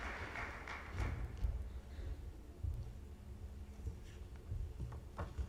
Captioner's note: audience applauds